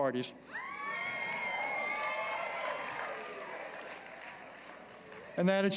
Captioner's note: cheering